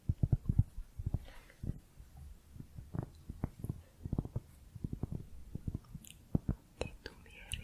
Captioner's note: tapping on cork